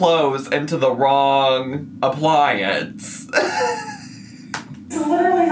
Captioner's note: laughs